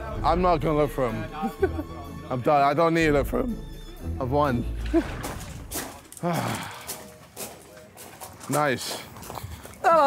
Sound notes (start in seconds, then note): 6.1 sighs